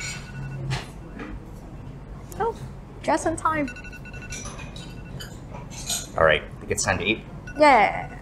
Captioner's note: alarm clock